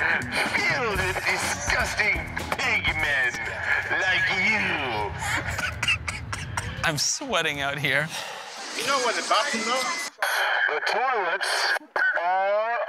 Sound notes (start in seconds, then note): 5.1 laughter